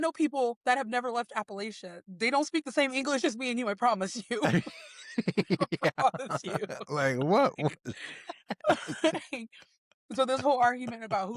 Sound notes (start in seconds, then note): 4.2 laughing